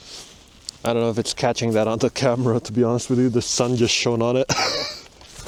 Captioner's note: laughs